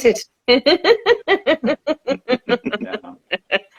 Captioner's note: laughing